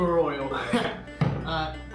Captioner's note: laughs